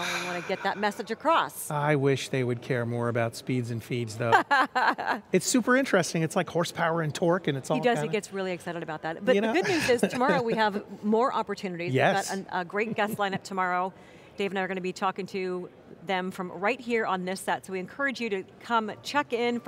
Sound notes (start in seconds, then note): 4.3 laughs